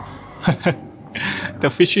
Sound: chuckles

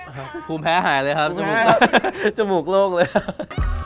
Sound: laughs

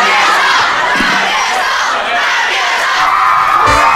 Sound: chanting

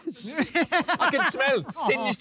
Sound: laughing

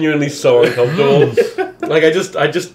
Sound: laughing

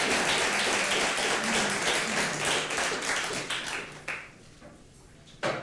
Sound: applause

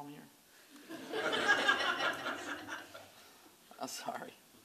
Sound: laughter

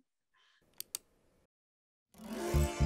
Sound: mouse click

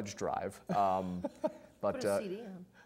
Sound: laughing

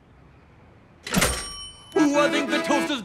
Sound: toaster dings

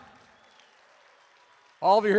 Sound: applause

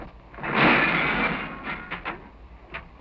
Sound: crashing

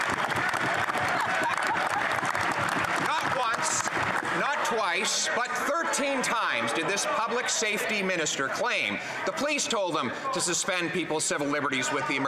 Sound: applause

